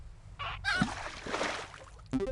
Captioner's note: strange bird sounds